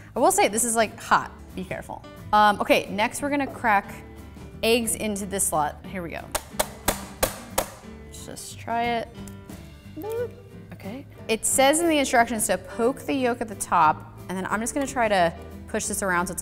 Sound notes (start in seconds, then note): 6.4 banging